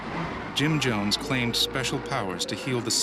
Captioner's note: voiceover